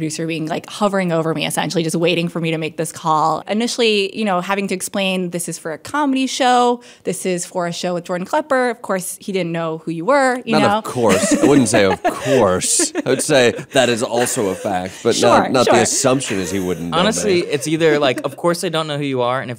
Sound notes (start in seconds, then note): 11.4 laughing